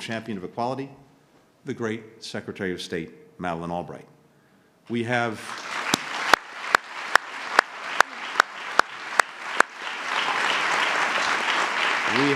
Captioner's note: applause